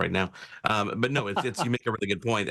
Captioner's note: laughs